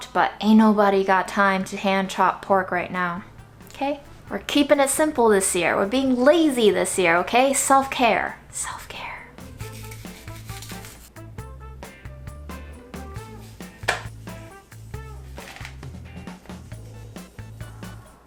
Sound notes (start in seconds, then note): 9.2 cheerful music; 9.4 meat rubbing; 13.5 meat slaps